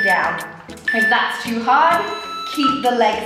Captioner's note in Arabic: مؤقت يصدر صوت تنبيه